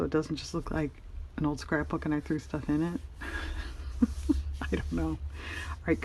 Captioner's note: laughs